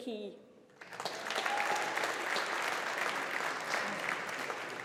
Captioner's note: audience applauding